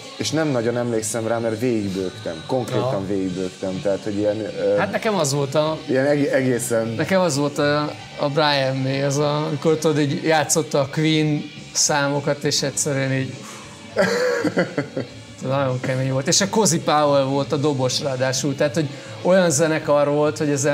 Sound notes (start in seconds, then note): 13.4 sighs